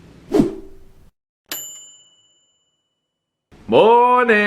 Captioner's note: ping